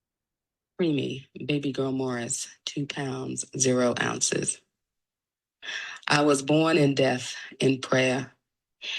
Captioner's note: poem #1 audio begins